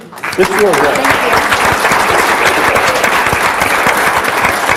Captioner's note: everyone applauds